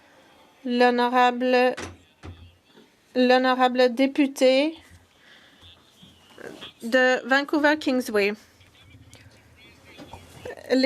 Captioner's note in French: voix de l'interprète